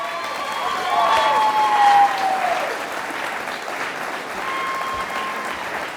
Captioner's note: audience applauding